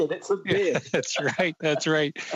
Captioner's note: laughter